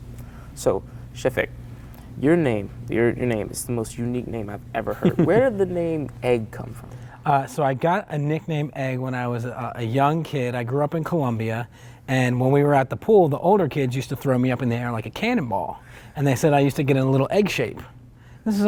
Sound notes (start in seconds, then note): 5.0 laughs